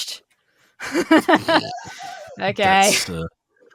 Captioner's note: laughs